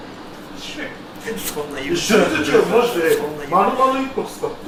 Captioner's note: laughs